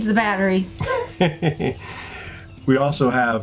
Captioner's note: laughing